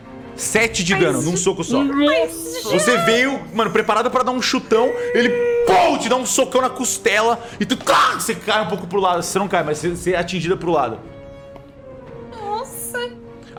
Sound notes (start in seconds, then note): 5.5 pow; 7.8 crack